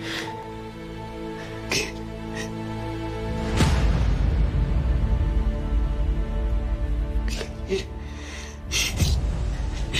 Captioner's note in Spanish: Sollozos